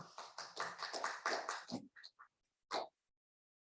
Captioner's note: audience applauds